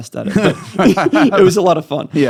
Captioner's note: laughing